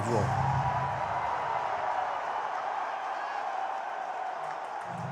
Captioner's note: crowd roaring